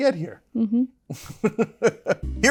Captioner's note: laugh